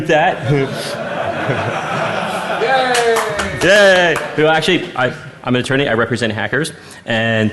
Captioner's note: laughing